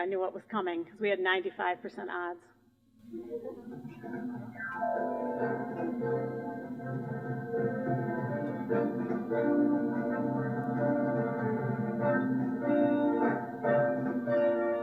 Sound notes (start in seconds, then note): 3.4 laughter; 3.7 musical performance